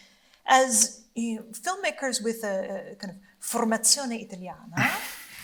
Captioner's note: speaking Italian